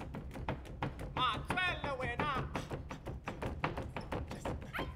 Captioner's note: drum beating; speaking language other than English; drum beating